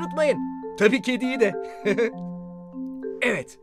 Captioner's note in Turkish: gülerek